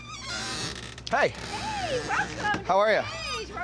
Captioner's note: Robert stutters; door squeaks